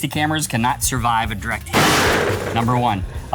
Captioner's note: sling pops